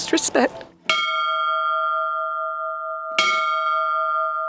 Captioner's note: bell rings